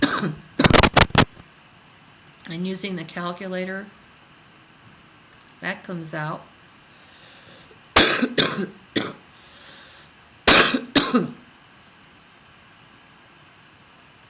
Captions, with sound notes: (static) I'm using the calculator, that comes out. (coughs)